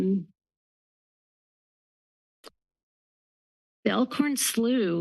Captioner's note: pause